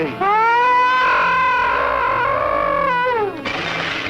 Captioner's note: gargon growls, squeaks